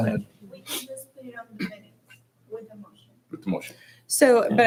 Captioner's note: hushed speaking